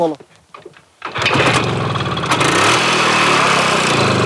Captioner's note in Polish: odgłos uruchamiania silnika